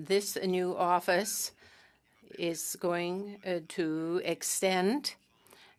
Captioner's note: speaking French